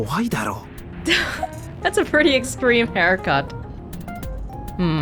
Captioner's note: exhales